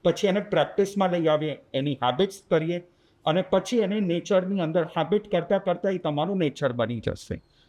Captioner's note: nature